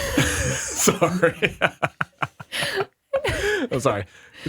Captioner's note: laughs